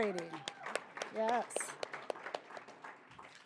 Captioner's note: audience applauding